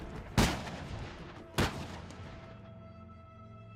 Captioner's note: gunfire